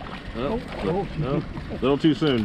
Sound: fish splashing

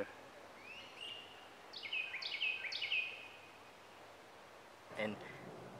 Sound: Carolina wren singing

